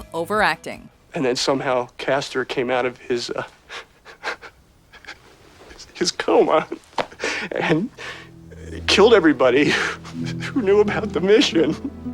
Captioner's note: chuckling